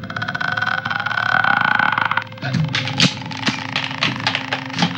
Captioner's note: weird rattling noise that The Grudge likes to make